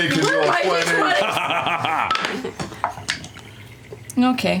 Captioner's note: laughter